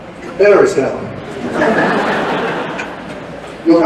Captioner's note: laughter